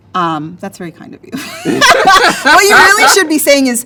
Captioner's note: laughs